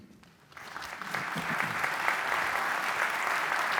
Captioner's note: applause